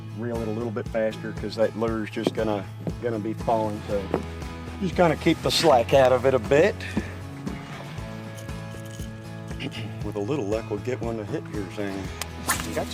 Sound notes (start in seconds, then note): 9.0 reel clicking